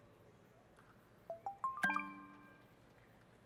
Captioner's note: beeping